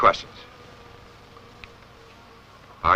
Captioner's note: buzzing fly